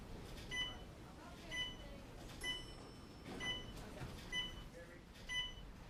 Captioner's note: hospital machines beeping